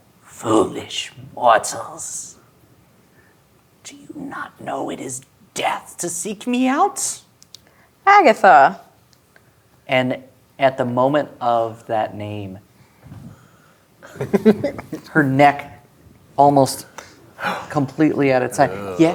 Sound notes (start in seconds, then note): 14.0 giggles; 16.9 gasps